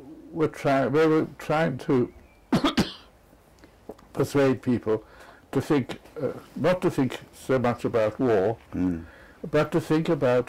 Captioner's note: cough